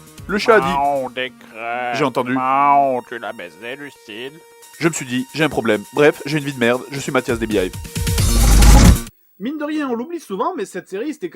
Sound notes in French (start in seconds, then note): 0.5 voix grave féline; 8.3 bruitage transition de "Bref"